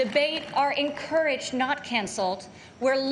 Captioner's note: applause